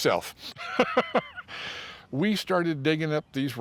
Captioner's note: laughs